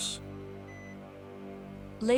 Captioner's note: machines beeping